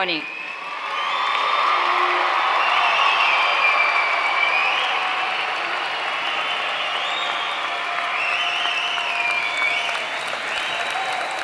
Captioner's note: applause